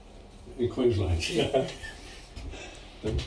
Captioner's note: shared laughter